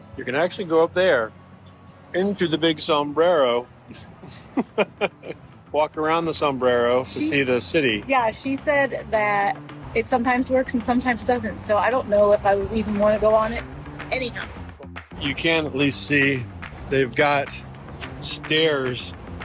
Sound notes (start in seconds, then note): 4.2 laughs